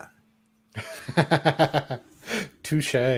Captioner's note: laughter